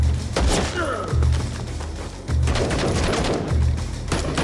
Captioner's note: bandit grunts